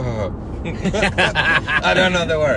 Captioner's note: laughs